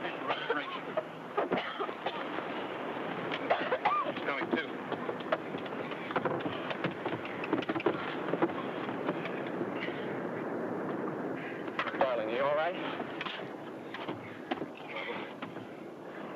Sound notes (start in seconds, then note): 7.3 footsteps shuffle